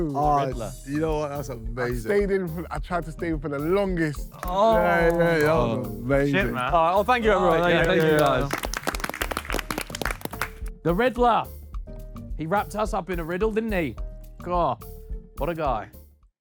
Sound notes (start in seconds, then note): 9.2 panel applauds